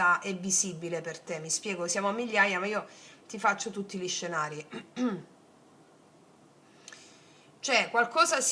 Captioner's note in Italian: schiarire la voce